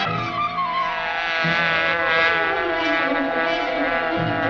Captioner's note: buzzing